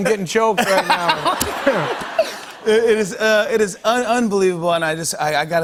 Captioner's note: laughter